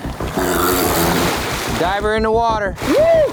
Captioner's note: water splashing